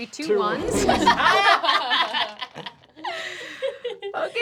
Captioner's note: laughter